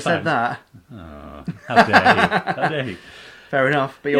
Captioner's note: laughing